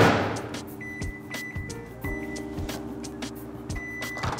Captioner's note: microwave beeping